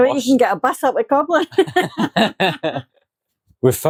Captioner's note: laughter